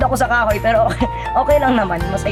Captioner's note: chuckles